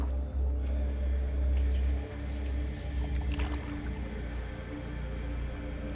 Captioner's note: female voices